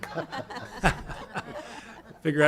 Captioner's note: laughter